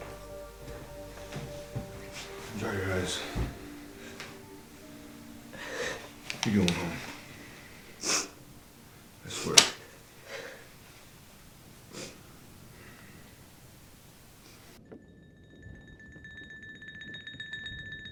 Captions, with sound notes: - Dry your eyes. You're going home. (Nellie sobs) I swear. (sighs) (suspenseful music)